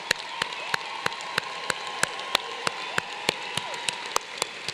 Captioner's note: applause